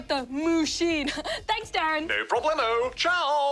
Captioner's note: laughs